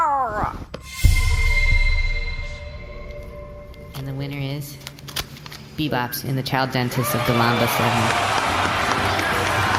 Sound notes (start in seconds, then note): 6.9 cheers and applause; 7.1 screaming